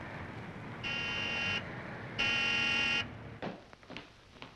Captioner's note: horn honking